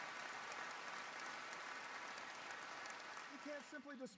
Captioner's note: applause